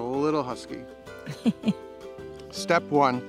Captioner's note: laughs